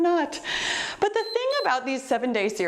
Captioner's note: timer beeps